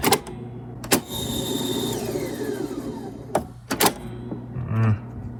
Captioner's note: tape recorder whirring